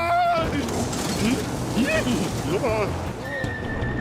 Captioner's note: chuckles